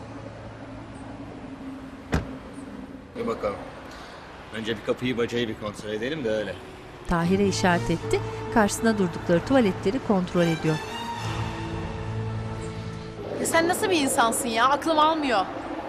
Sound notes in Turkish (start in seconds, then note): 2.1 Kapı kapanma sesi; 6.9 Araba sesleri; 7.4 Müzik - Arabesk